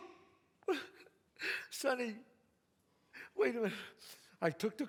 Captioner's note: sobs